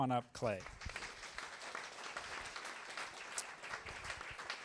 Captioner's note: applause